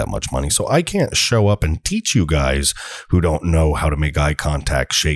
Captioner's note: slang voice